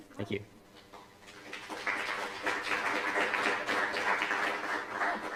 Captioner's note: applause